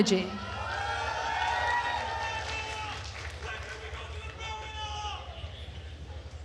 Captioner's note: attendees cheering and applauding